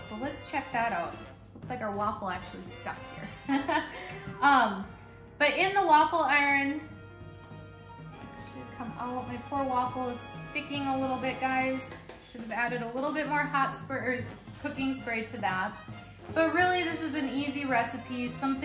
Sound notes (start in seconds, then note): 3.4 laughs